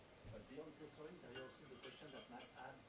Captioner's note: attendee 4 faintly speaking